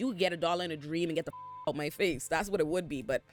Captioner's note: beep